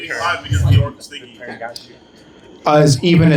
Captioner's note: laughing